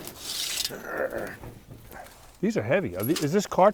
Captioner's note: grunting